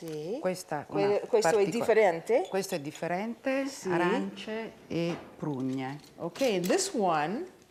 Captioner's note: speaking Italian